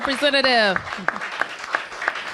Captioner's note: applause